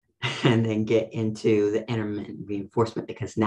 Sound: laughs

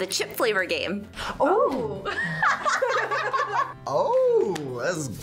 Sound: both laugh

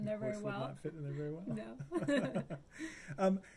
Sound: laughing

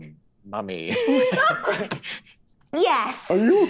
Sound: laughing

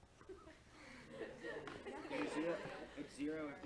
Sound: laughter

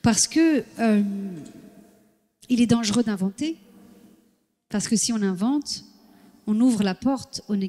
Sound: foreign language

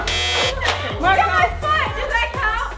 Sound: buzzer buzzes

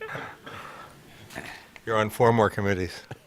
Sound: laughter

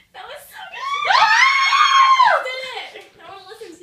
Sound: all cheer

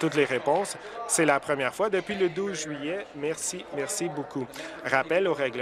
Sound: applause

